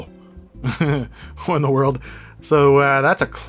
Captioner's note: chuckles